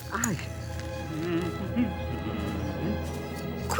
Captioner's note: humming